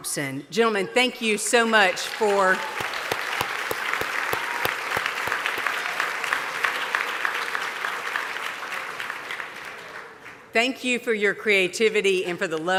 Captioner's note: applause